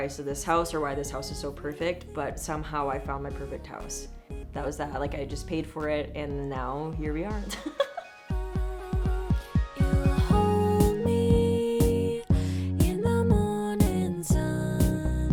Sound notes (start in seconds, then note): 7.4 laughing; 8.9 upbeat electronic music